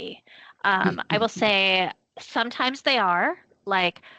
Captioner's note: chuckling